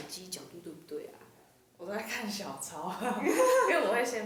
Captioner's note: laughs